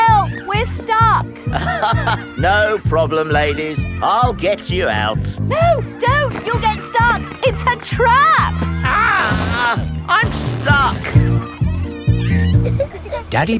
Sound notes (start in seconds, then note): 1.5 chuckles